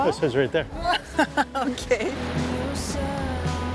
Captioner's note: laughs